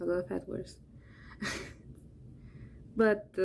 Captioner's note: chuckles